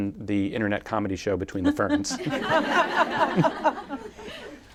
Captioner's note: laughter